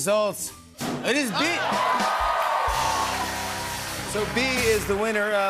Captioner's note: cheers and applause